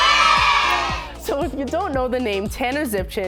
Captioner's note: cheering